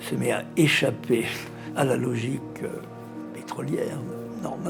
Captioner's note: speaking in French